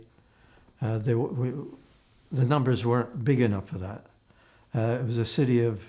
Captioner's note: mumbling